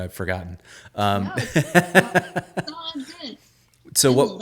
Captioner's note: laughing